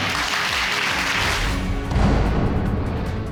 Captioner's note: applause